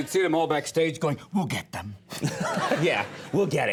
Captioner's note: audience laughs